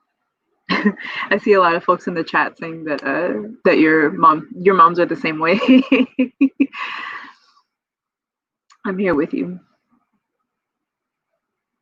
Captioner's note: laughs